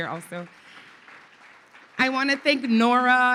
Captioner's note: audience applauding